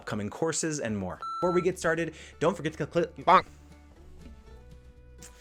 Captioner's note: bloops; soft music